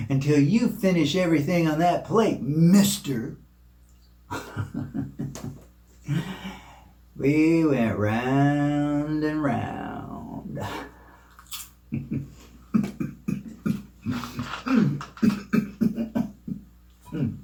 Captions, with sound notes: until you finish everything on that plate, mister. (chuckles) We went round and round. (coughs)